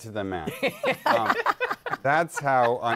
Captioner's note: laughter